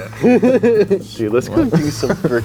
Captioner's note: laughs